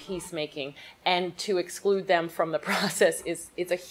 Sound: chuckles

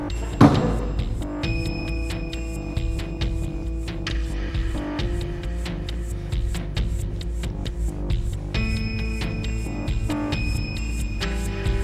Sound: bang

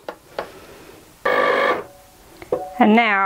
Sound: machine whirring

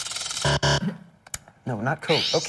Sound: buzzer

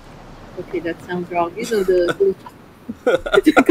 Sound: laughs; chuckles; laughs

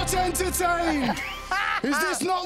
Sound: laughs

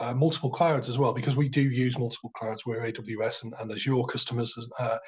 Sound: murmurs

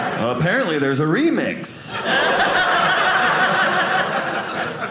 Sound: audience laughing

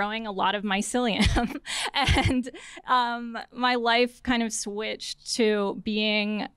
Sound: laughter

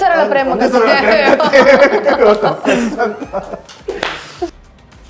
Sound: laughing

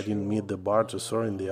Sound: speaking alternate language

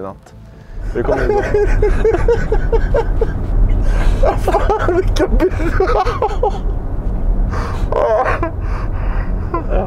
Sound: A giggling fit follows

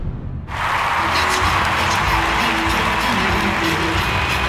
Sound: crowd cheering

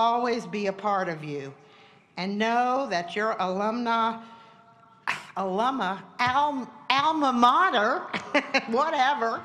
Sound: laughing

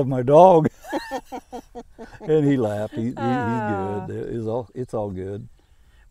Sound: laughing

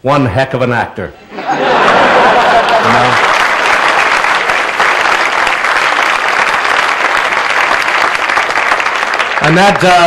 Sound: laughter and applause

